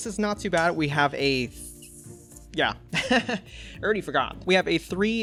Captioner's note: laughs